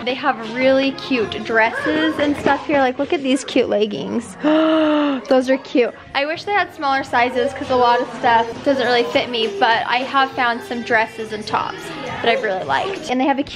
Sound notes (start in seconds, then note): 4.3 gasps